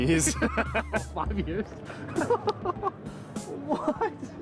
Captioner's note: laughter